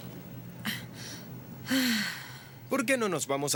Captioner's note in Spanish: Jodie suspira